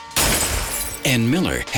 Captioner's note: glass shatters